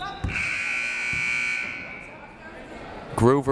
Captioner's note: siren buzzing